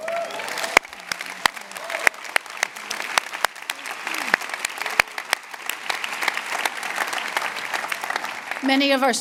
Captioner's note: applause